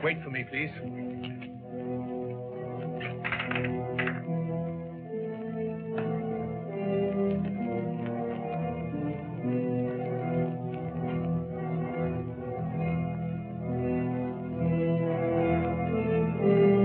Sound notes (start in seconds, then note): 2.9 gate creaks